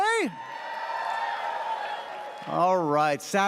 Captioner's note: audience cheers